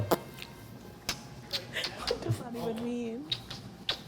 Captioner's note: lip smacking